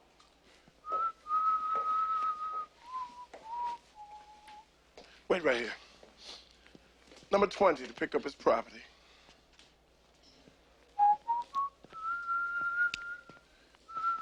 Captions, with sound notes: (Nick whistling) Wait right here. Number 20 to pick up his property. (Nick whistling)